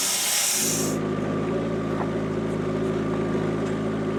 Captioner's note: vehicle rumbling